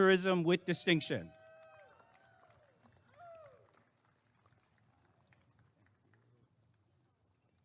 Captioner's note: applause and cheering